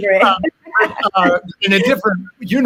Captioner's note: all laughing